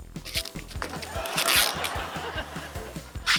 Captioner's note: laughter